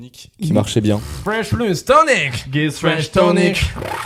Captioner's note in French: beatbox